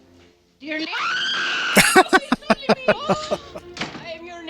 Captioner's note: laughing